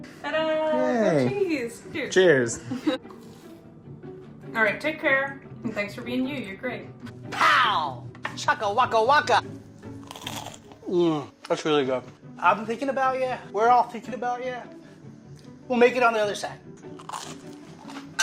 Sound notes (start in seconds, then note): 10.0 crunch; 16.9 crunch